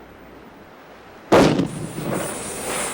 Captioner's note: flare gun booming; flare sizzling